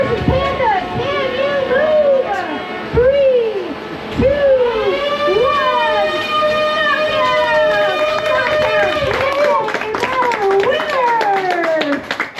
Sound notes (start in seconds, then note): 6.8 robot whirring; 12.1 crowd applauding